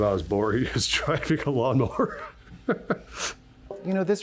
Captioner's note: chuckling